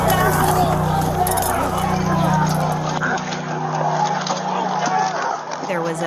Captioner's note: shouting, struggling continue